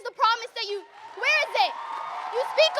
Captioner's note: audience cheers and applauds